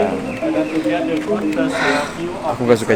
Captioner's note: sigh